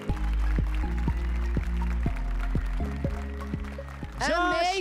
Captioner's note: applause and cheers